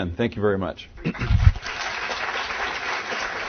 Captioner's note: applause